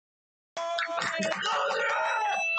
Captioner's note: cheering